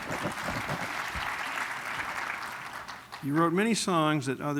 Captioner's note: applause